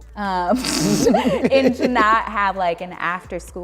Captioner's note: laughs